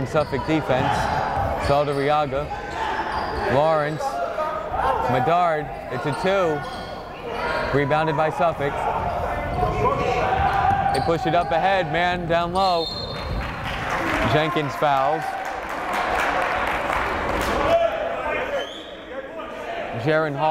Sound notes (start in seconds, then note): 8.9 yelling; 16.8 clapping; 18.9 yelling